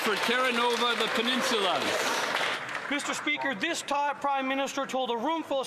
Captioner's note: some Applause